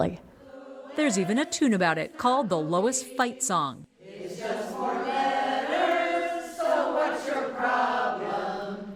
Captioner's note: voice-over